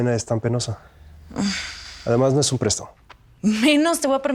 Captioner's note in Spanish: suspiro